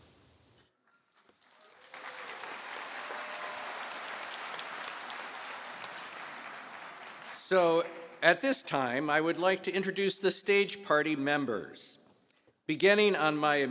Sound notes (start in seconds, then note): 1.2 applause